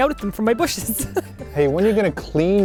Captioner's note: laughing